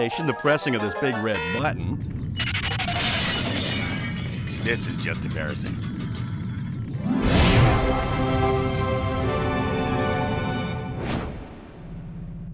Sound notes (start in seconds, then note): 0.9 beep; 1.9 rumbling; 2.2 crash